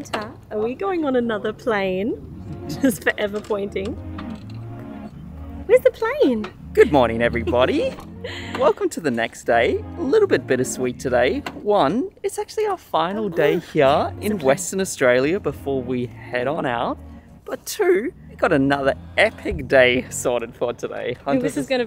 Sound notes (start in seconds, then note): 2.2 chuckles